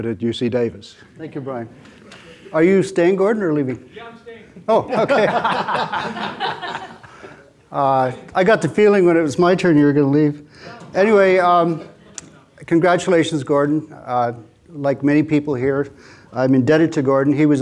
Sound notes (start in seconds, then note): 4.6 laughs; 4.7 audience laughing